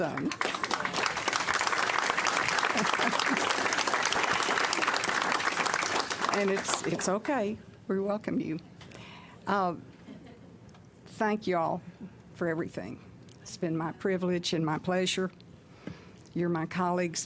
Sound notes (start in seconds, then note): 1.7 clapping